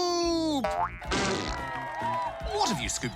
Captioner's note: cheering